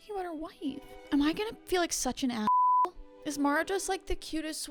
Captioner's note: beep